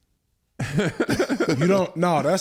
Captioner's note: Eric laughs